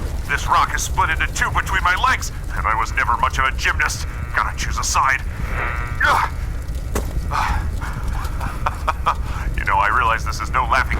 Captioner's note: laughs